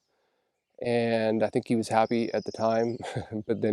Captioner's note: chuckles